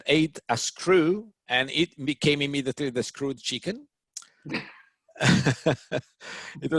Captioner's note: laughs